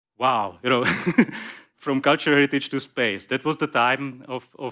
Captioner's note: laughs